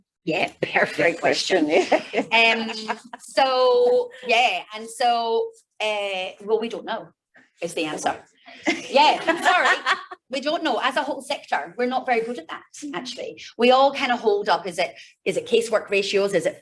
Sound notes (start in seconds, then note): 8.6 laughing